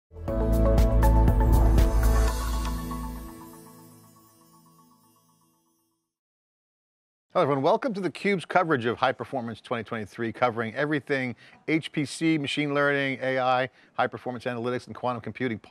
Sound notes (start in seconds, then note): 0.2 instrumental intro music; 1.6 rocket whoosh